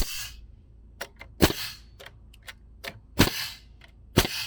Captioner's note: nail gun shooting